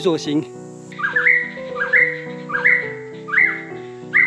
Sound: birdsong

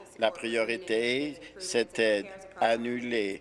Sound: none

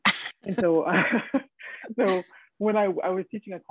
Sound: both laughing

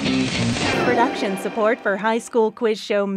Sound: upbeat music; voiceover

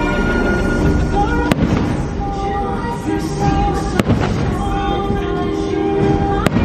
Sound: fireworks popping

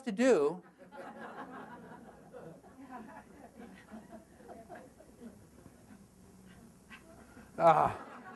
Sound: audience laughter

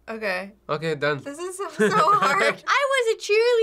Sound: chuckles

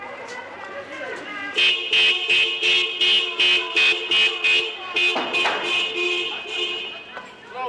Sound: police car horn

